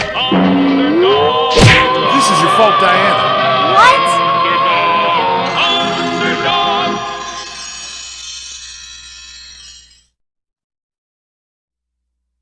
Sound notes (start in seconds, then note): 1.5 crash!